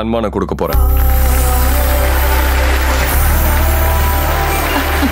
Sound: applause

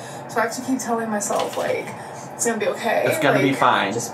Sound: none

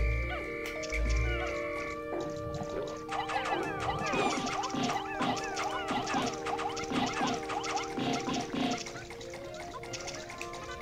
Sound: whistle blows

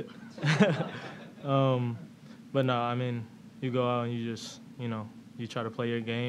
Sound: laughs

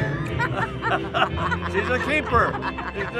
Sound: all laughing

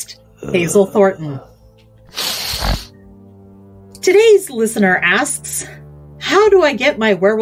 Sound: groans and sniffles

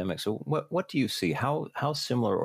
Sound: none

